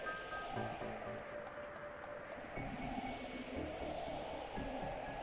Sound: none

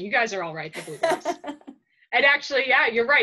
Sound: laughs

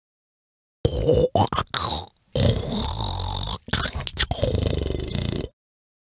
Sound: monster sound

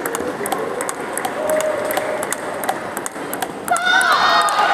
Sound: applause

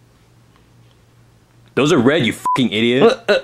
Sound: beep

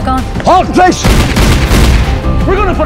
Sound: guns booming

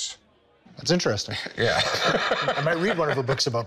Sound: laughs

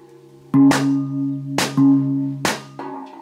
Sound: gong sounds

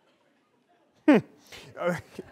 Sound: laughter

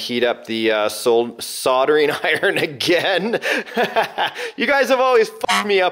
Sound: laughing

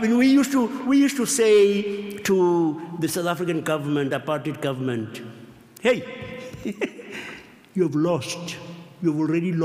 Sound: laughs

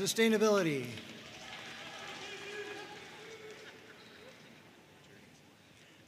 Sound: audience cheering and applauding

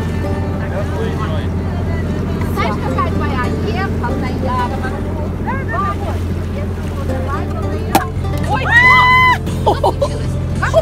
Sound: foreign language and laughing

